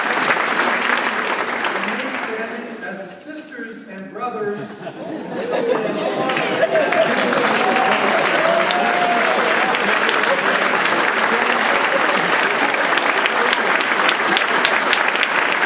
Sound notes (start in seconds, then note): 5.7 laughing drowns out speaker; 7.7 audience clapping